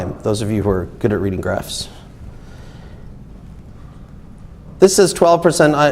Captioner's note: none